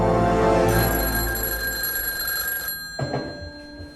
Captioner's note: phone rings